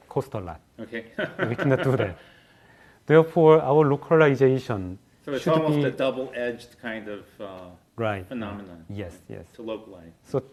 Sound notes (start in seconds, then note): 1.1 laugh